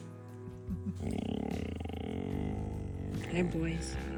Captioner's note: camper softly grunts